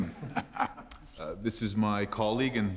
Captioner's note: laughing